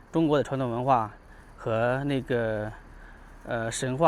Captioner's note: 英语